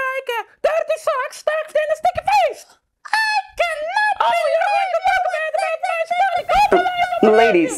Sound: yelling

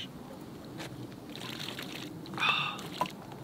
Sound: water pouring

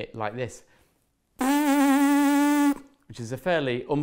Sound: blowing noise

